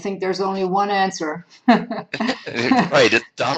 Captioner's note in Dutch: Lachen